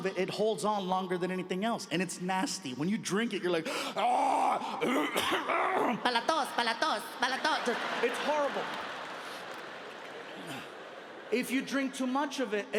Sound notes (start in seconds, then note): 3.7 groans and coughs; 6.3 speaking in foreign language; 7.1 audience laughing